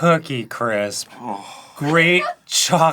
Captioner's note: groans